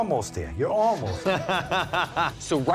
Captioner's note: laughs